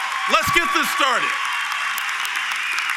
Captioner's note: applause